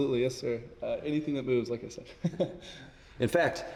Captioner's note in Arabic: ضحكة مكتومة